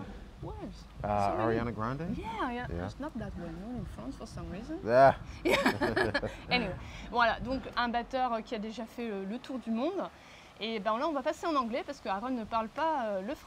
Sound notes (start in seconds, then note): 5.4 laughter